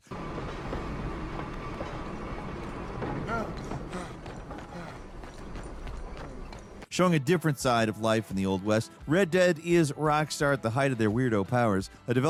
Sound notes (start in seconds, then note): 0.0 train wheels clacking; 3.4 runner panting